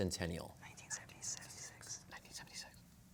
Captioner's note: whispering